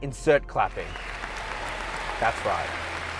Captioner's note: clapping